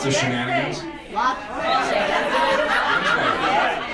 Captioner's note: audience cacophony